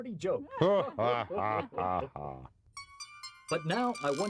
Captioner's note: laughter